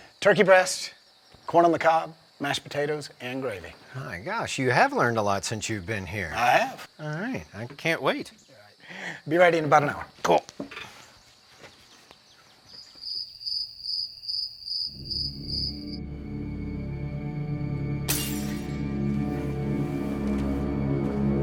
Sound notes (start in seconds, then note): 12.8 crickets chirping; 14.9 eerie music; 18.0 glass shattering